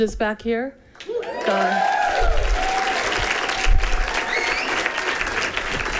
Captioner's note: people cheering and clapping